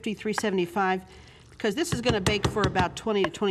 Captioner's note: thudding